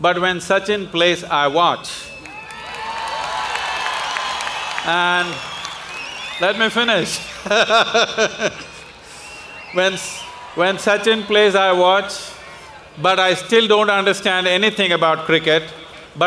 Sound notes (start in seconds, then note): 2.1 applause; 7.0 laughs